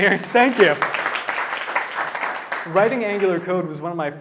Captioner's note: audience clapping